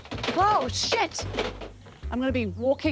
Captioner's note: clattering